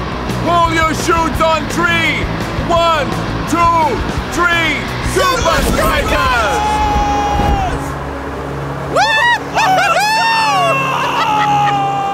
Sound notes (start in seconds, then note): 8.9 cheering